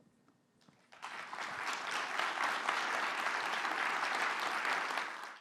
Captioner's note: audience clapping